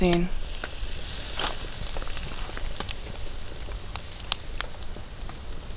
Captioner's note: sizzle